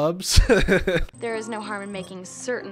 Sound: laughs

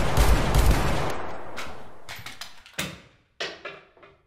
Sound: bodies & chair falls

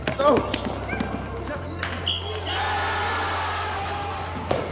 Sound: cheers

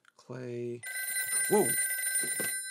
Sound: phone ringing

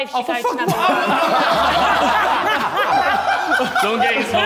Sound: Sidemen laughing

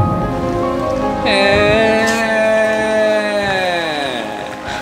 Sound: teasing voice

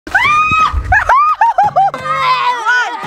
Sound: woman yells

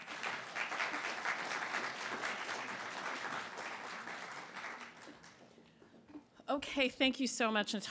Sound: applasue

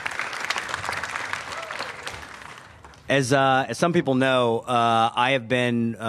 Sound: applause

